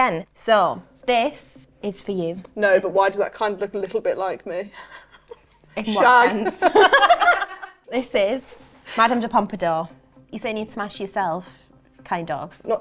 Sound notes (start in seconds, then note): 6.4 both laugh